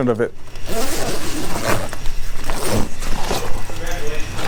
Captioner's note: zipper unzipping